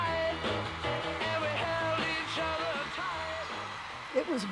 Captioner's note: cheers and applause